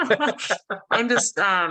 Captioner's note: laughter